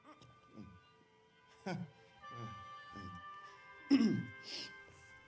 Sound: he clears his throat

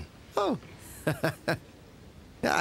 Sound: chuckles

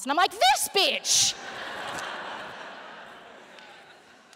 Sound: laughter

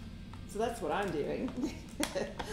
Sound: chuckles

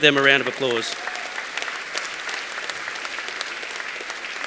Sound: applause

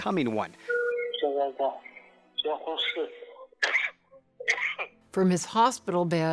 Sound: coughing

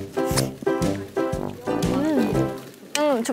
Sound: nom nom

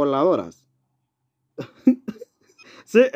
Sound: laughs

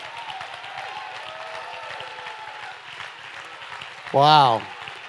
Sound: audience applauding; audience cheering

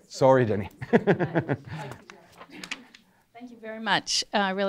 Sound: laughing

